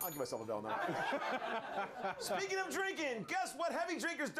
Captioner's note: bell rings